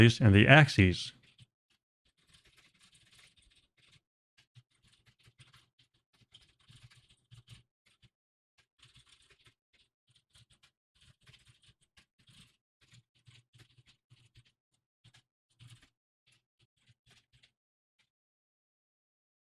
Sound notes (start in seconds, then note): 3.4 typing sounds